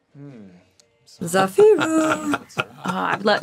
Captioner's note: laughs